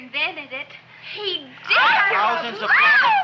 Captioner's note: girls screaming